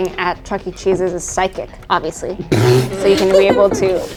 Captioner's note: sputters